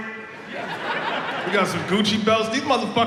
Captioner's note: audience laughs